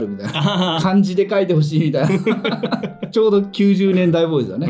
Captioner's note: laughs